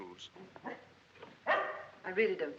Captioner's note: barking